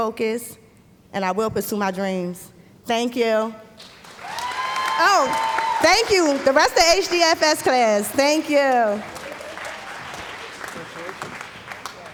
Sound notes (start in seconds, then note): 3.8 background Applause; 9.0 applause